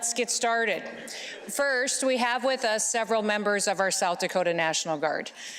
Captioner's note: laughter